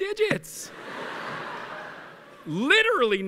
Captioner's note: laughter